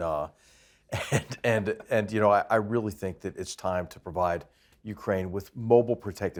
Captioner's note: laugh